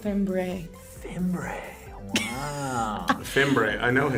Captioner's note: React laughs